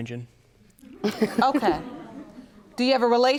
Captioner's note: laughs